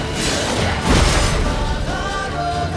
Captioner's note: Quen shield explodes